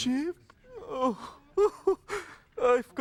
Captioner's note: groans